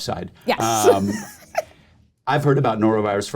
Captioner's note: chuckling